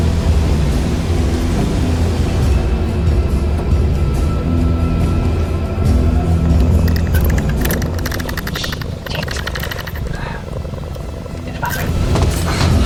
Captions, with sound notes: (doorknob rattling) Shit! In the bathroom.